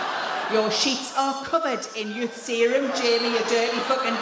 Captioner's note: in a cross voice